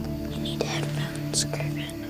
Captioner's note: whispering